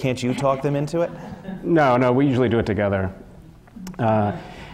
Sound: laugh

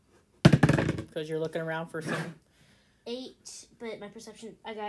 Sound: die rolling noises

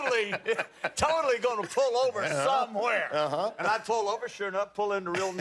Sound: laughter

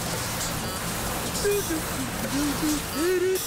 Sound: humming

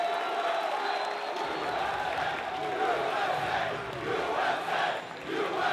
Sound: audience chanting

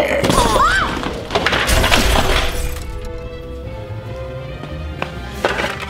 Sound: instruments crashing; shouting

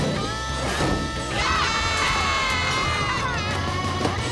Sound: screaming

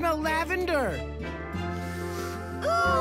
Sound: inhaling deeply

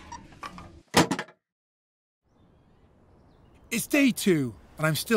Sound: door clangs shut

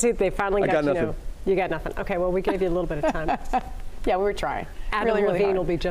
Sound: laughter

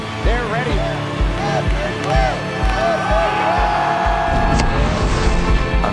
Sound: family cheering

